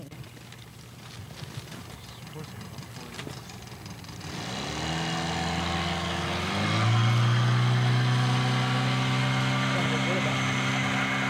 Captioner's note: boat engine revving